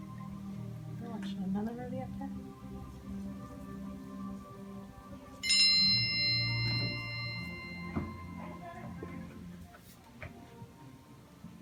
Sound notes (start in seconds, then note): 5.5 phone dings